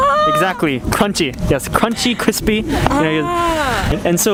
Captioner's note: crunchy